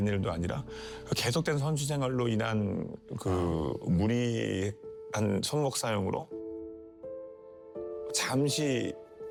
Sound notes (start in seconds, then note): 3.2 Both sigh in T1 fans